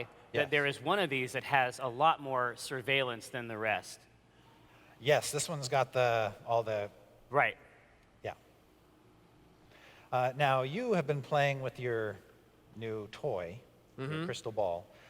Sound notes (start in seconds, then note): none